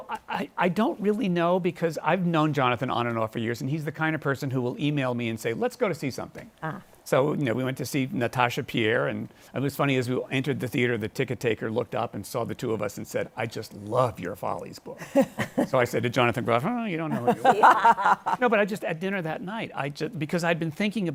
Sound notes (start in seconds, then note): 15.0 chuckles; 17.1 laughter